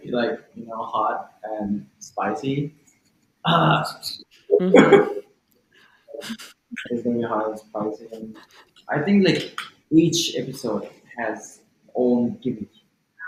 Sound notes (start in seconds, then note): 4.7 clears throat